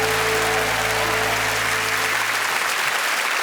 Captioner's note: applause